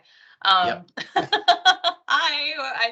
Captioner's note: laughing